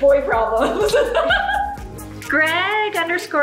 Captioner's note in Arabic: يضحك